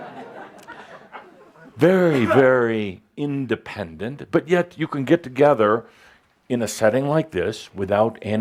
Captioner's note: laughter